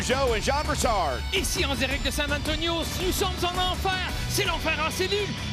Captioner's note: speaking in French